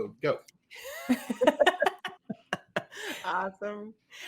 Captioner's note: chuckling